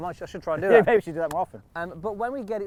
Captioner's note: laughs